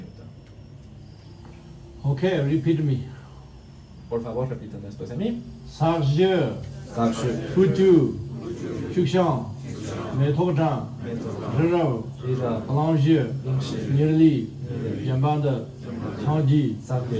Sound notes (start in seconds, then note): 5.9 tibetan